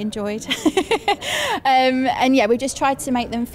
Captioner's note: laughs